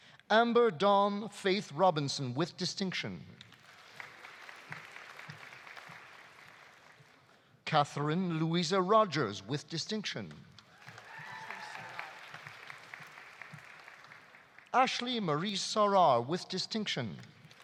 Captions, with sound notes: Amber Dawn Faith Robinson, with distinction. (audience applauding) Katherine Louisa Rogers, with distinction. (audience applauding) (audience cheering) Ashley Marie Sarauer, with distinction.